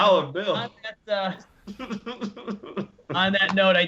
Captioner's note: laughter